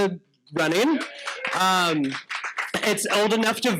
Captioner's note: audience applauding